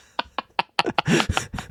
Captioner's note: laughing